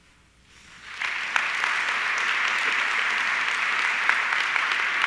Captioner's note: audience clapping